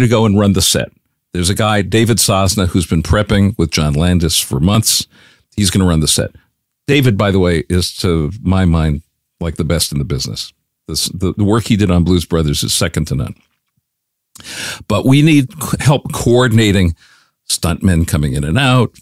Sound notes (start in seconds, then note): none